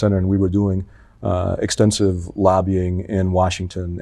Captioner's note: none